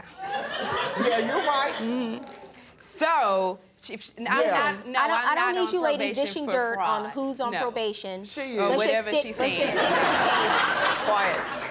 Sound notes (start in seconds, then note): 0.2 audience laughs; 9.5 audience laughs